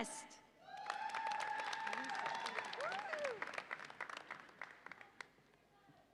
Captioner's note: audience applauds and cheers